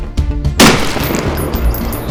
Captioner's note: gunshot